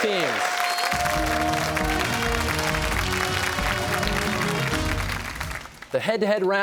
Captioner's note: cheers and applause